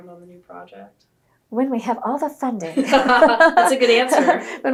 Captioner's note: laughter